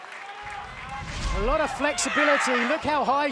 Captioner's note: whooshing sound plays